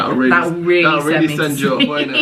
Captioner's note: laughing